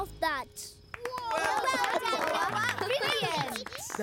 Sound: applause

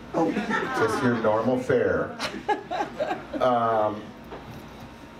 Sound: laughs

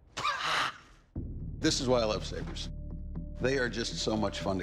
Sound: laughs

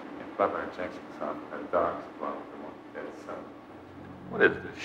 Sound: man muttering

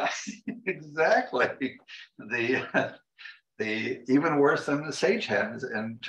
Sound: laughter

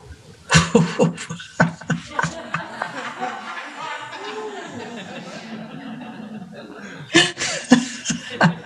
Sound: luaghs

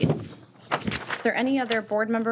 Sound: papers shuffling

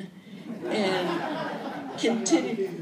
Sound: laughter

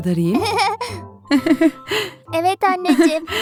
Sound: laughing

